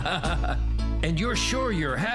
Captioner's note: laughing